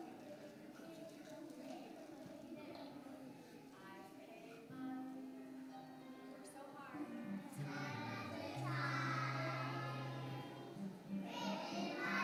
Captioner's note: children chatting